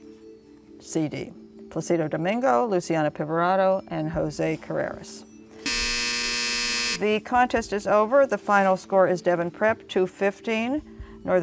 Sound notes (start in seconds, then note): 4.0 buzzer